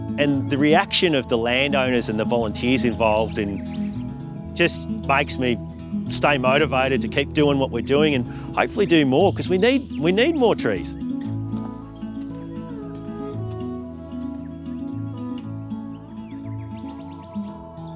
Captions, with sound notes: And the reaction of the landowners and the volunteers involved just makes me stay motivated to keep doing what we're doing and hopefully do more because we need more trees. [acoustic music plays] [footsteps]